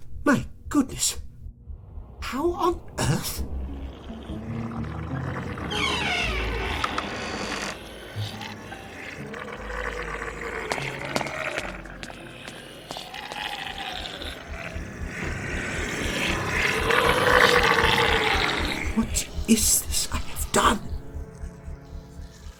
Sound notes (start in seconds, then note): 5.6 coffin creaks and monstrous gurgling rises; 9.5 creature gurgles